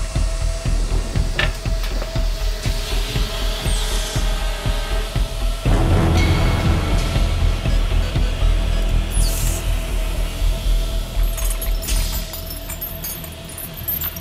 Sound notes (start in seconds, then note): 3.5 door hissing; 3.5 suspenseful music continues; 7.6 keypad beeps; 7.8 door hissing; 11.1 chains clanking